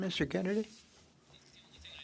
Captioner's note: speaking French